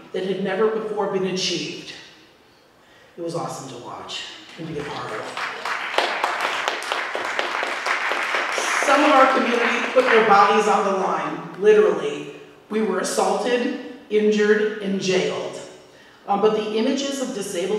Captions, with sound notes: that had never before been achieved. it was awesome to watch and be a part of. [Applause] Some of our community put their bodies on the line literally. We were assaulted, injured and jailed. But the images of